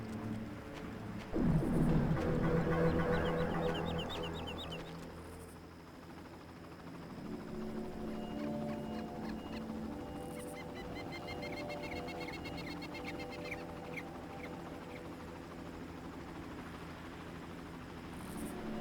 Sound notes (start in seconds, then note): 4.9 tense music; 8.1 birds chirping